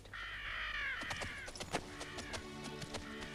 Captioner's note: gentle music; buzzards squawking